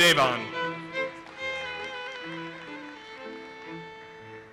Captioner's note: audience applauses